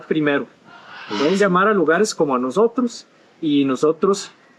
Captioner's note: in Spanish